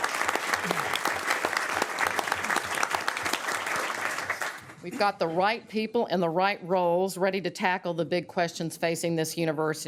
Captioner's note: applause